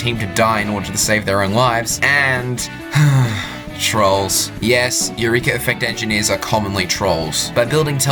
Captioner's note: annoyed sigh